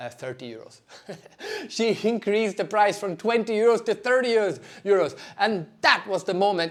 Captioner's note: laughs